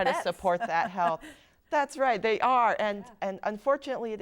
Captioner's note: laugh